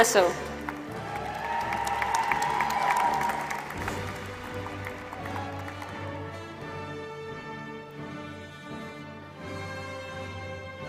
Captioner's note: applause